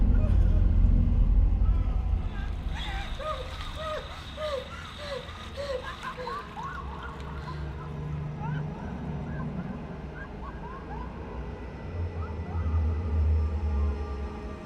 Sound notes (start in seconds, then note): 8.4 water stops; 10.9 children laughing, echoes